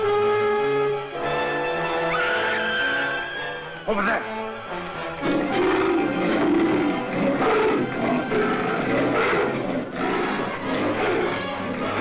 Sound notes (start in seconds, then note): 1.9 Dina screaming; 5.2 leopard roaring; 8.6 gorilla grunting; 11.8 intense music